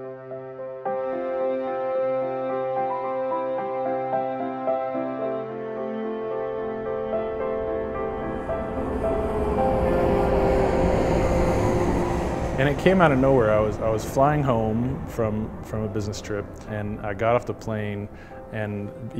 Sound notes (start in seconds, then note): 0.1 melancholy piano music; 8.6 airplane engine roars